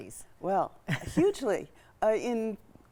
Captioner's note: chuckling